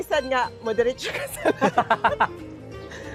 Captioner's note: laughter